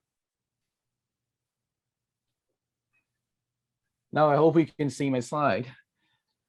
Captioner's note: brief silence